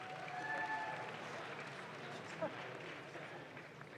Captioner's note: audience claps